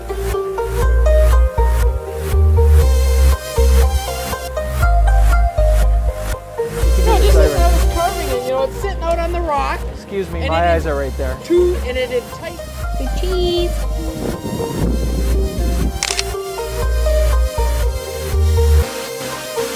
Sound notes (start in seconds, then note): 16.0 camera clicking; 17.3 soft music